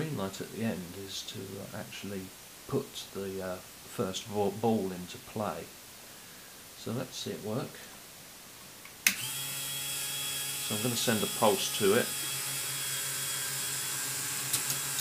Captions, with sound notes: The green light at the end is to put the first ball into play. So let's see it work. [Motor whirring] I'm going to send a pulse to it.